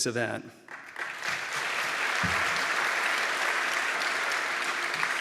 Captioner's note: audience applauds